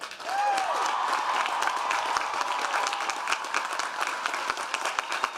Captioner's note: audience cheering and applauding